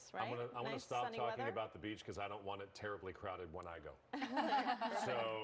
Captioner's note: laughter